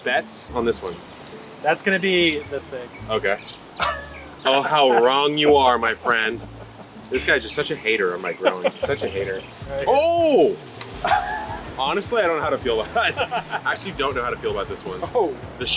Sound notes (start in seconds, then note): 8.1 laughs